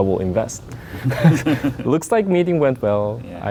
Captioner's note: laughing